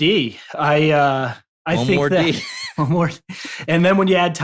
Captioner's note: laughter